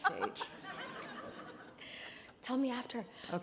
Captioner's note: audience laughing